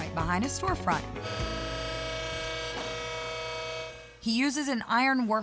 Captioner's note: buzzing sound